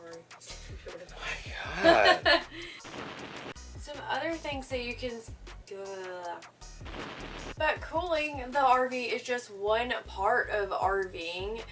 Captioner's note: laughing